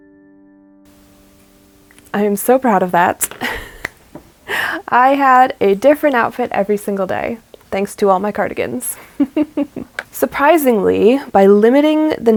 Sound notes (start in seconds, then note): 0.0 music ends; 3.8 laughs